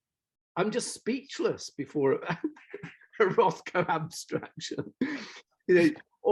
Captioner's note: laughs